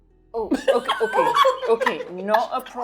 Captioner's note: laughing